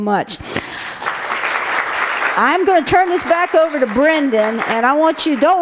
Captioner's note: applause